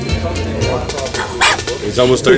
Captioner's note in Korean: 짖는 소리